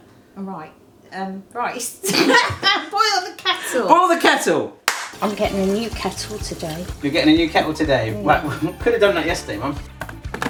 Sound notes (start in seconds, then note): 2.0 both laughing; 4.8 claps hands